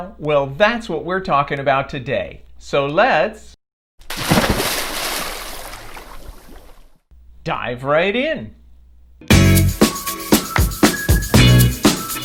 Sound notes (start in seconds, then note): 4.0 water splashing; 9.3 upbeat music